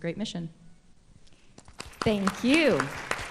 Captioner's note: applause